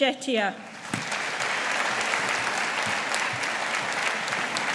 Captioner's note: audience applauding